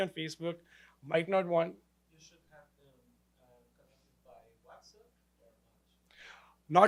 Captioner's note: audience member mumbles question